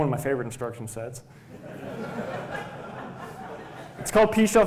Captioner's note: laughter